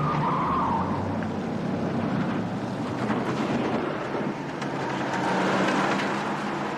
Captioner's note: tires screeching